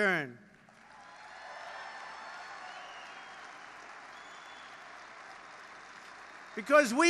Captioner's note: applause